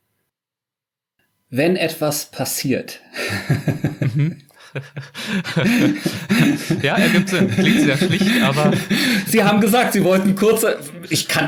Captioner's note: laughing